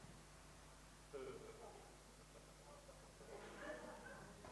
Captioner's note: crowd laughing